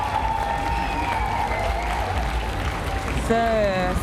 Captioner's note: cheers; applause